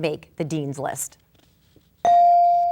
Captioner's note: bell dinging